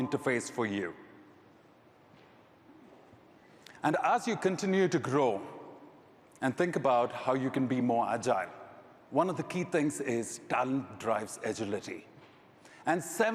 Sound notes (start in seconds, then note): none